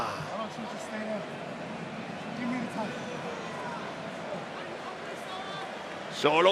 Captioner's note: applause